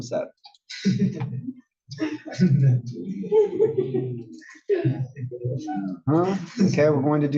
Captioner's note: laugh